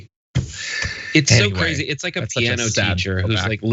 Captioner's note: laugh